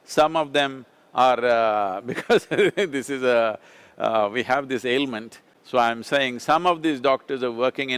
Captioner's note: laughs